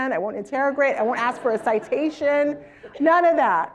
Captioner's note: laugh